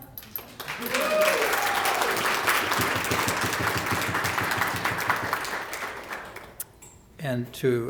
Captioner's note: applause